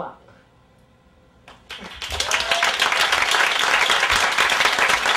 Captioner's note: applause